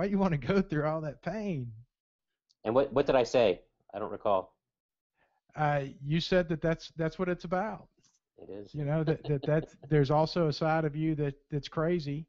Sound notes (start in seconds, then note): 5.9 voiceover